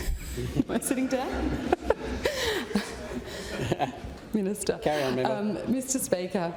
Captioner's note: laughter